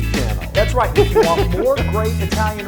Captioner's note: laugh